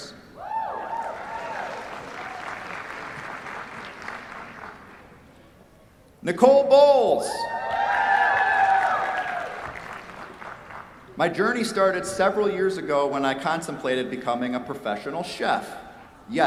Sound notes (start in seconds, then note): 1.0 applause; 7.3 cheers, applause